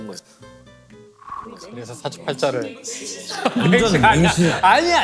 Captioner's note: rumbling